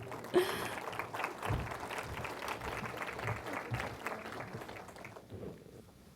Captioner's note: applause